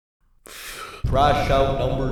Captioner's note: takes big breath